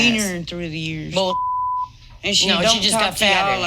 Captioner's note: beep